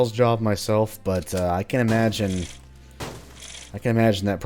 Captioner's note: smashing boxes